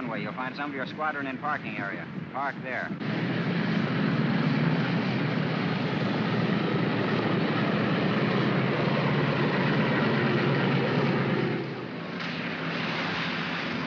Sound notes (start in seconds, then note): 2.8 aircraft rumbles; 12.2 water splashes